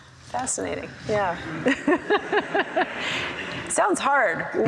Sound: laughs

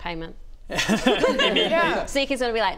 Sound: cheeky laugh

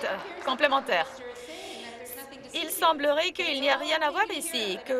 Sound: some Applause

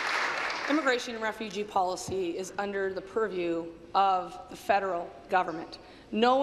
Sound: applause

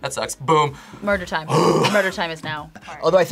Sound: grunts loudly

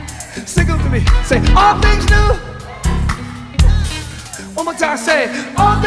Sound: audience cheer

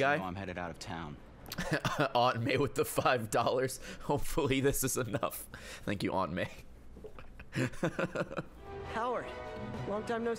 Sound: laughs

